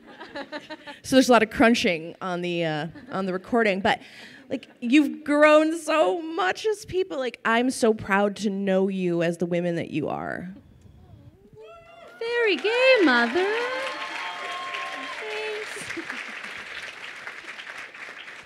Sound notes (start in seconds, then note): 11.6 crowd cheering; 15.6 giggles